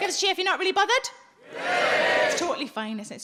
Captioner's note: audience cheering